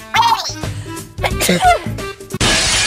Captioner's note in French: Meggy étérnue